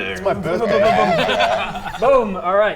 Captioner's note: grrrrrr!